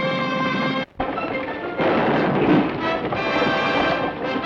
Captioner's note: dramatic orchestral music; hooves thunder; guns fire